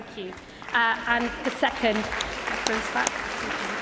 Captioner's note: cheering